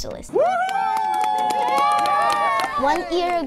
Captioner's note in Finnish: hurrausta